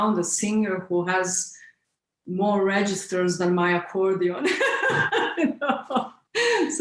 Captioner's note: laughs